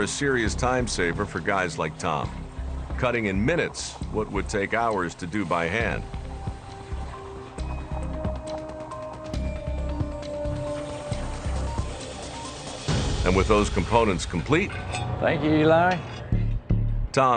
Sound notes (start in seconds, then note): 6.4 ambient music; 10.4 laser fizzling